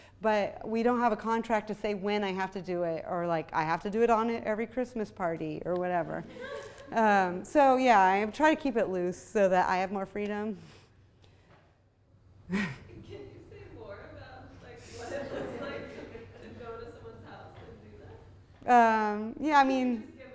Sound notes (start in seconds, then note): 13.1 voiceover; 20.2 voiceover